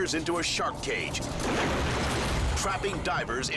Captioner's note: cage bangs